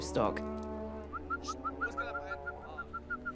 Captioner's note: whistling